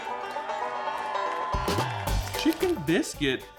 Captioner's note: bright banjo music; audience applauding; audience cheering